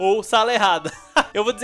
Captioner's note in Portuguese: risos